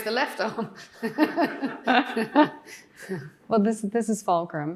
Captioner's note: everyone laughing